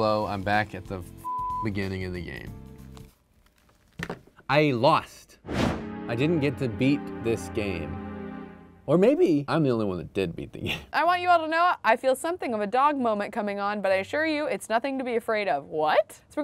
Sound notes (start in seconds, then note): 3.9 headphones thud; 5.5 sad music